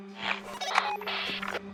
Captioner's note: radio bleep